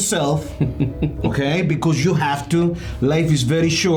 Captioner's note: chuckling